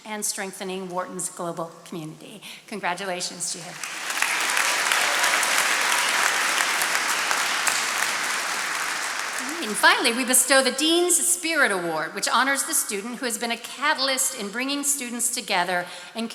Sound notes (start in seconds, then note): 3.7 attendees applauding